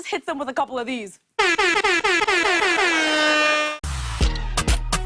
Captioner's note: air horn blaring